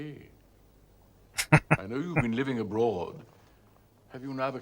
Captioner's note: chuckling